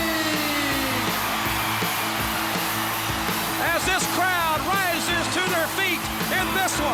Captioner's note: applause